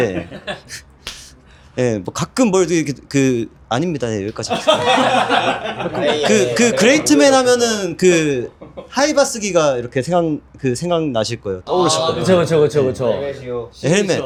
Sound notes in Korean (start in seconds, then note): 0.3 웃음